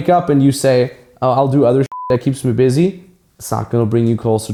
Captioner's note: beep